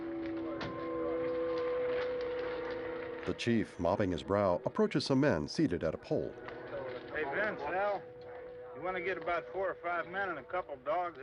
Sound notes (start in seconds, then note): 4.0 indistinct conversations